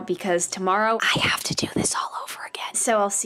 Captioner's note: whispering